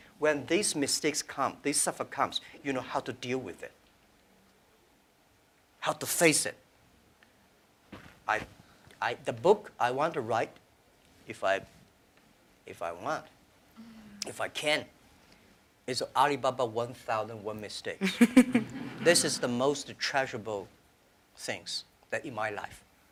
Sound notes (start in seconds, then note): 18.0 laughter